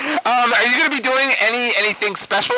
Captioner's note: laughs